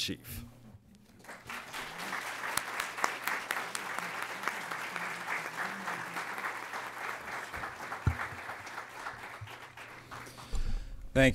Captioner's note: applause